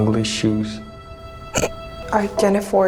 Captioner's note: Emma snorts